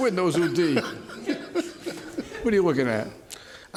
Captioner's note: laughter